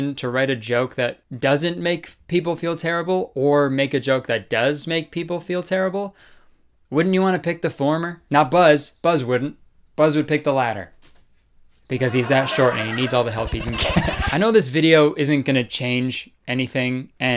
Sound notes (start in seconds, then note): 11.9 chuckles